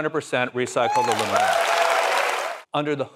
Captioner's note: applause